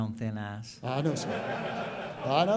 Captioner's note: laughing